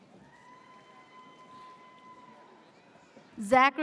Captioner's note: audience cheers